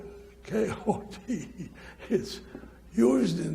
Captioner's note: chuckles